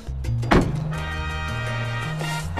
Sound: door slams

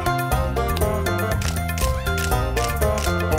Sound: camera clicks

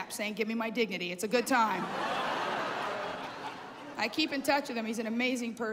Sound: laughter

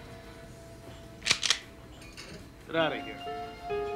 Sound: shotgun loads

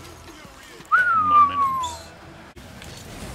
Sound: whistles

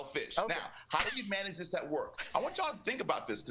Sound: applause

